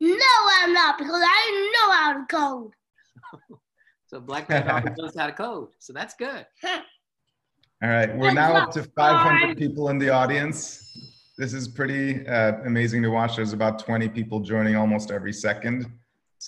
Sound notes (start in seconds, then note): 4.4 laughing; 8.0 chuckling; 10.6 bell rings